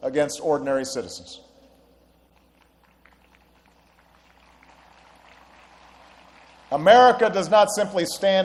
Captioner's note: applause